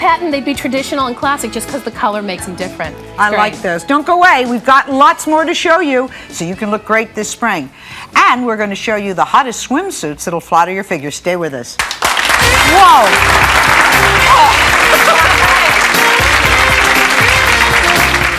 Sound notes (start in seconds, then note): 11.7 audience clapping; 14.7 jazzy music